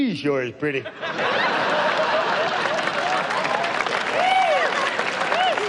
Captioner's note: audience laughs